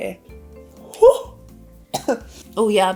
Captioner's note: coughing